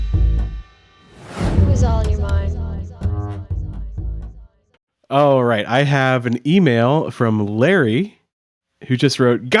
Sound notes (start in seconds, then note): 2.0 voiceover